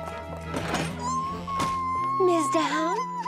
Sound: Portia crying

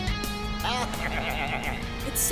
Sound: bleating

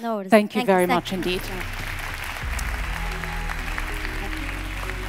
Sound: audience applauds

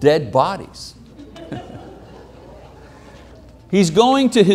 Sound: chuckles; audience laughing

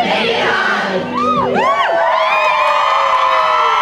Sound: cheers

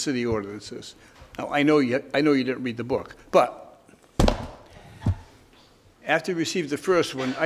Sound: book thumps

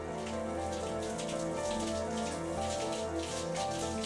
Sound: water rushing

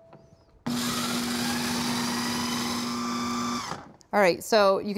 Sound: processor whirring

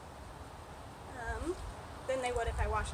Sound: wind

